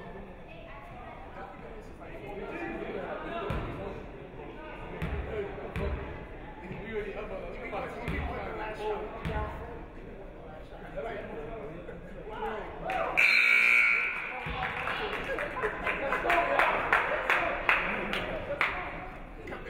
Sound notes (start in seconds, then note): 13.2 buzzer buzzes; 14.1 audience clapping